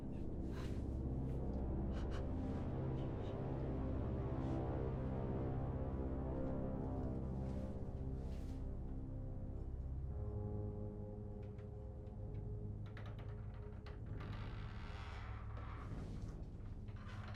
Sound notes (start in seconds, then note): 13.0 door creaking